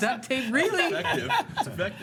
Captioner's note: laughs